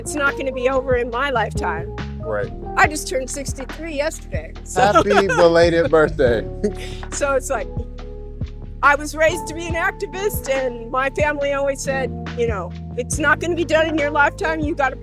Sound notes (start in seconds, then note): 4.8 laughing